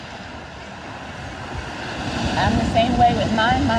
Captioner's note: waves crashing